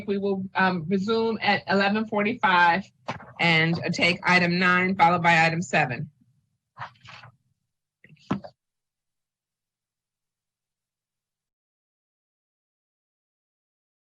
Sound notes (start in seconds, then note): 4.9 objects clattering